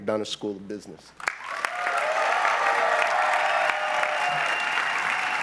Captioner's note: cheering and applause